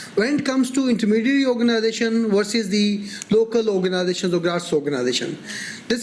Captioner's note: none